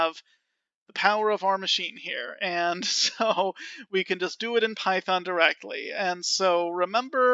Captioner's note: laughing